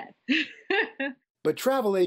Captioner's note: laughter